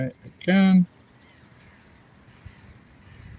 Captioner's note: birds chirping